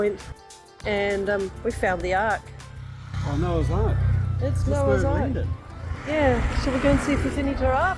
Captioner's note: motorbike passing